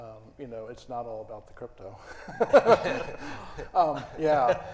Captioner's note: laughs